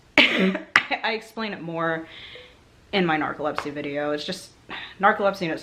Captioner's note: coughs